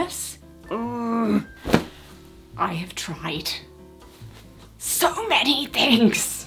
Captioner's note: groans